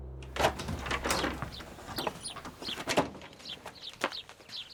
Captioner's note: birds chirping